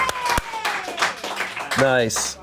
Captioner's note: audience cheering; audience applauding